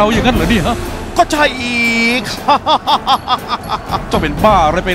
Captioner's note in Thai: หัวเราะ